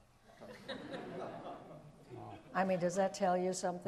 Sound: audience laughs

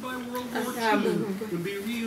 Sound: pronouncing words

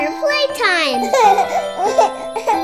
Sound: children laugh

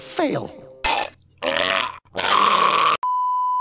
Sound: choking

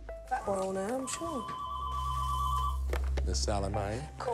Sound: phone ringing

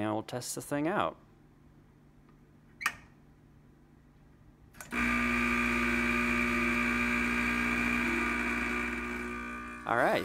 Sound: machine Noises

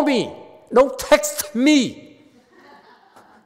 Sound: audience laughs

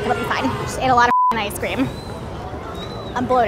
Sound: beep

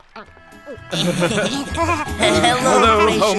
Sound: laughter

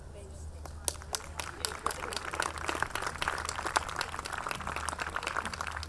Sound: audience clapping

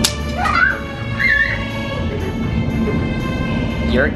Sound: squealing

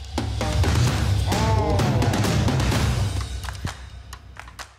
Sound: suspenseful music; all groaning

